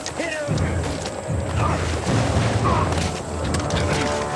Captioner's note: grunting